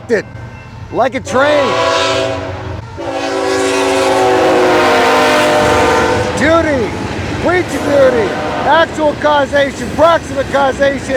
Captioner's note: loud train noise